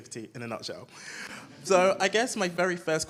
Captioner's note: audience laughs